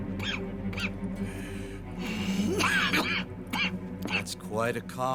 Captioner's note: Arthur coughs while raising his hands